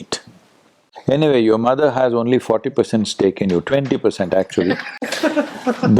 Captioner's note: laughter